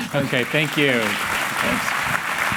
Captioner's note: applause